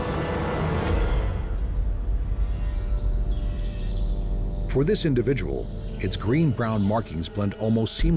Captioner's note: birds chirping